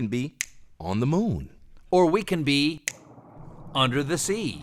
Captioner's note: snap